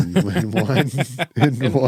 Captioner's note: laughing